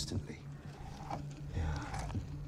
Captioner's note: dinosaurs growling